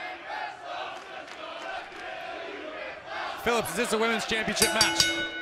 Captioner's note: fans chanting